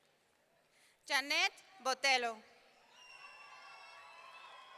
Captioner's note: audience cheering